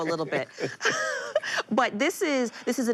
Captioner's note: both laugh